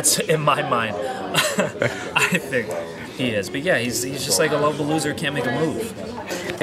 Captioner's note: laugh